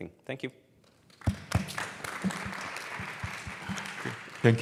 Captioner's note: applause